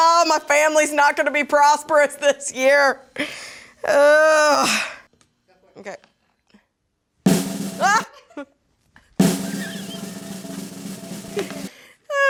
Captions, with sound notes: Oh, my family's not gonna be prosperous this year. Oh. Okay. (drum roll) Ah! (laughing) (drum roll) (laughing)